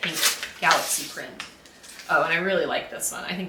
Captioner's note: tape unwrapping